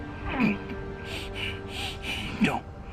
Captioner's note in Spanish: Respiración agitada